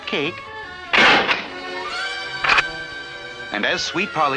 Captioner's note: door Closes & then locks